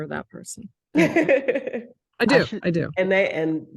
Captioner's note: laughing